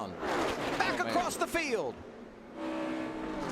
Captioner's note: cars whooshing; engine buzzing